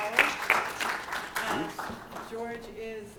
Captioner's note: applause